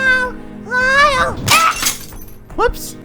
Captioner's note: shattering glass